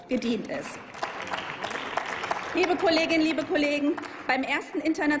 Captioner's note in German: Applaus